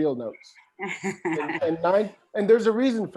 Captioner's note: laughs